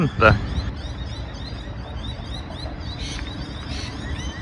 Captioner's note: bird song